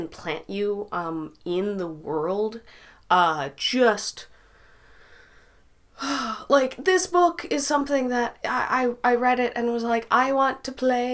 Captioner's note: sigh